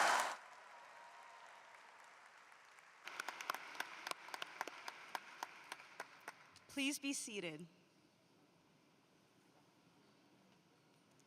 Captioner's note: applause